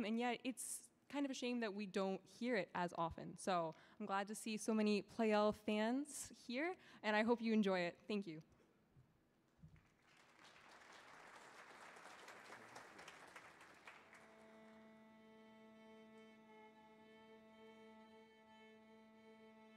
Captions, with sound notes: and yet it's kind of a shame that we don't hear it as often. So I'm glad to see so many Pleyel fans here and I hope you enjoy it. Thank you. (audience applauding) (orchestra tuning instruments)